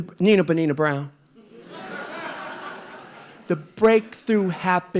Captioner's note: audience laughing